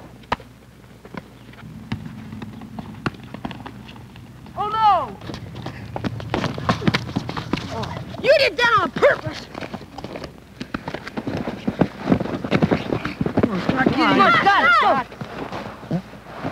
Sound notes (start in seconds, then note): 0.1 ball hits baseball glove; 5.4 footsteps then bodies collide; 9.7 scuffling sounds; 14.1 yelling